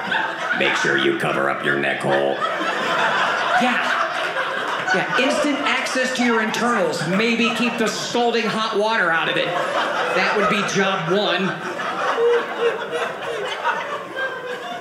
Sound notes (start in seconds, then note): 11.5 audience laughing